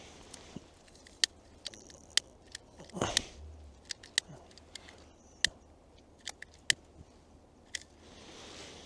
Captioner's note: igniting lighter